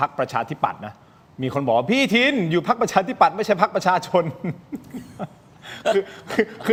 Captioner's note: laughs